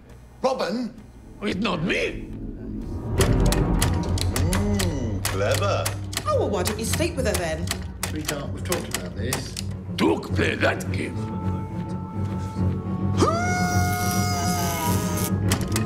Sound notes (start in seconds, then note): 13.1 grunts